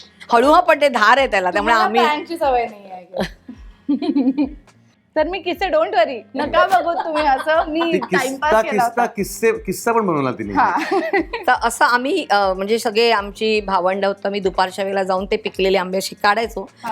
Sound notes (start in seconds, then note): 3.8 chuckles; 6.4 chuckles; 10.0 chuckles